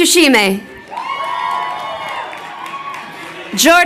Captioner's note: crowd cheering